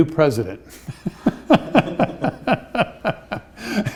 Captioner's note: laughs